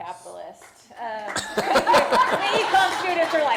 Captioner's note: laughter